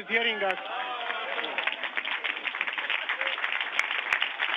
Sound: clapping

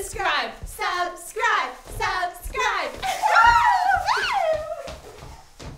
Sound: giggles

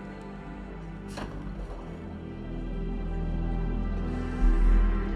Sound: door opens

